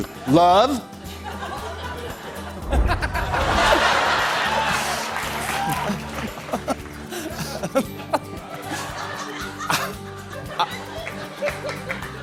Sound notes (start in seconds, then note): 1.0 laughter